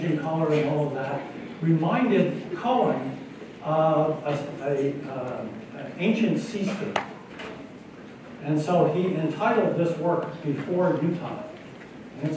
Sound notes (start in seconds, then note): none